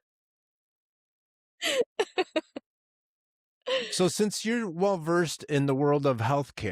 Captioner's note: laughing